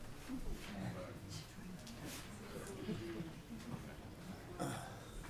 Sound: crowd chattering distantly

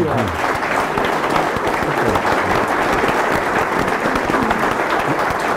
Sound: attendees applauding

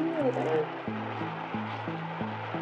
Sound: raining

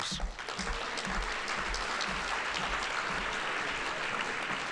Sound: audience applauding

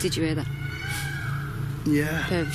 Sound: peacocks squawk

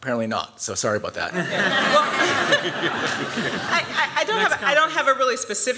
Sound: laughter

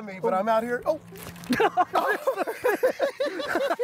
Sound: both laugh

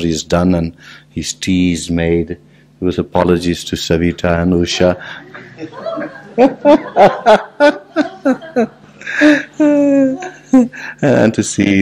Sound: laughs

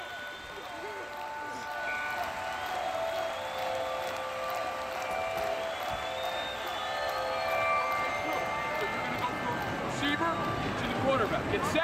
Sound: playing/Cheering

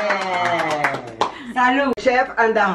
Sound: everyone toasting

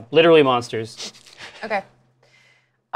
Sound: laughs

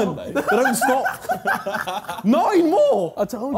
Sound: laughing

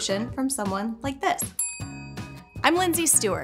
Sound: bell rings

